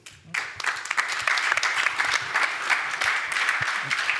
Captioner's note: applause